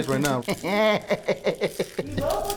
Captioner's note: laughs